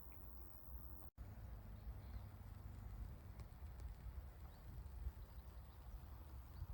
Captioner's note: electricity cables buzzing